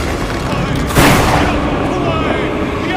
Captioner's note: lighting Strike, indoors somehow